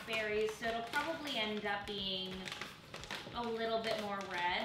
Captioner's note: none